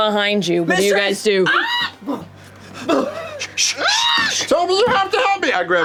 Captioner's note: shushes